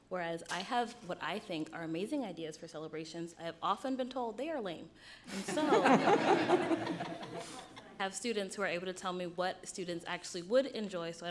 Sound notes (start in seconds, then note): 5.3 crowd laughs